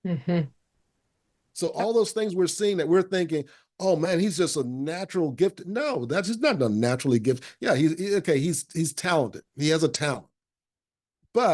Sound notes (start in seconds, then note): none